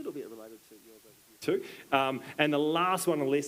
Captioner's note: speaks faintly